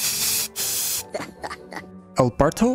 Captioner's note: chuckle